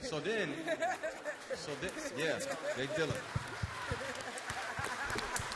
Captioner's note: applause